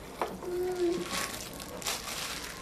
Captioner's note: Stella hums